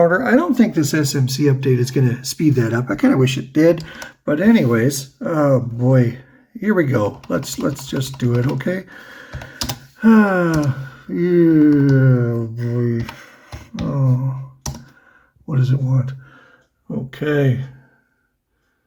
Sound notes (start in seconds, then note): 8.9 sighs, mutters